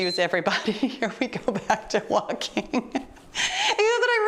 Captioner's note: timer beeps; laughing